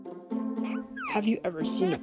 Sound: Baby Flint Giggles

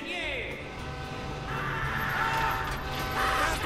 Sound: train horn

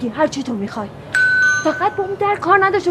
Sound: doorbell ringing

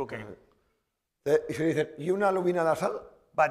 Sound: speaking spanish

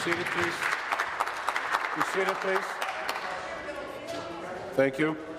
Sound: applause

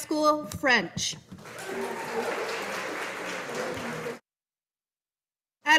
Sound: audience applauding

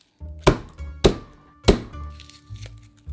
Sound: knife smashing

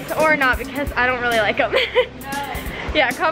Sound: laughs

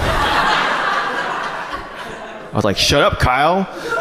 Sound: audience laughs

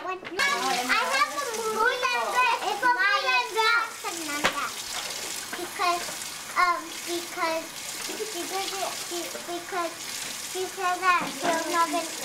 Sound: background chatter

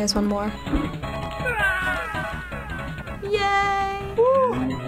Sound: in game: echoing yell

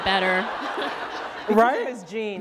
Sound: laughter

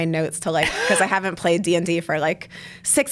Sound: laughs

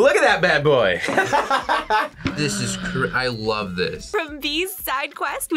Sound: laughs

